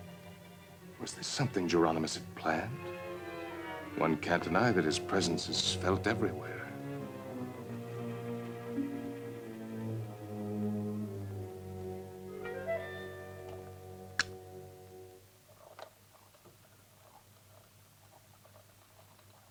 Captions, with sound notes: Was this something Jeronimus had planned? One can't deny that his presence is felt everywhere. (eerie music) (phonograph clicks) (phonograph whirring)